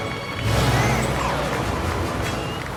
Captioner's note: truck horn warbles